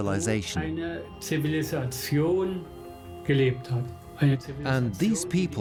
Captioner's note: speaks in German